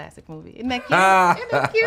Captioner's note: laughing